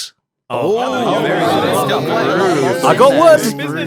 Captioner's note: impressed chatter